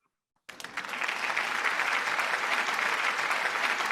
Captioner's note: applause